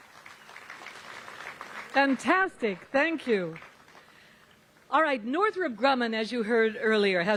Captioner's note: applause